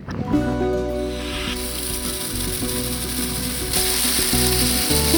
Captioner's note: turning water valve on